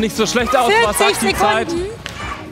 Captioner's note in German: Jubel